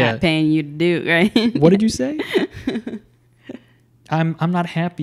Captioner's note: chuckles